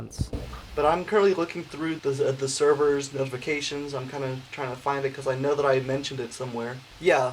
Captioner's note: announcements